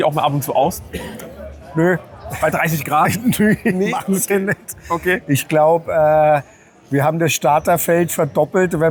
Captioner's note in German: gelächter